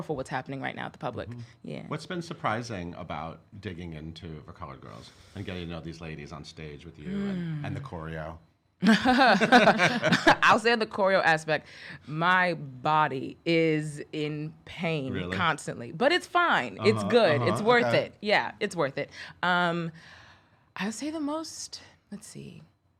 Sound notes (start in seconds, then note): 8.9 laughing